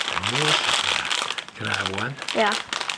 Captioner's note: plastic rattling